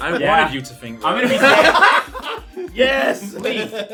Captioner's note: laughs